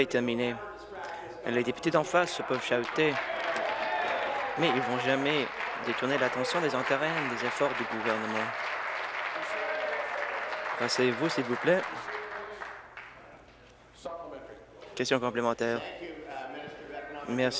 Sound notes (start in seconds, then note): 7.2 applause